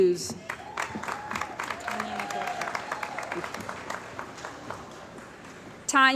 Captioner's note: cheering & Applause